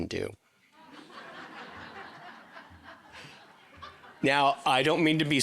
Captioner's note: audience laughing